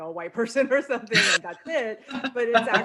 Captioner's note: laughs